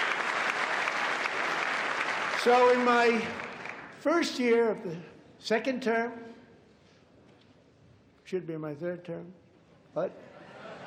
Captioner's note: applause